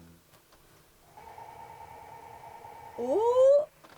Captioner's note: nozzle rotating